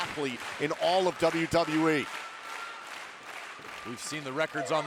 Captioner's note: crowd claps rhythmically